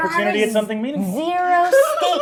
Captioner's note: laughing